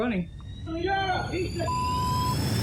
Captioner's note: indistinct shouting